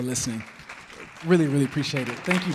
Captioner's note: audience clapping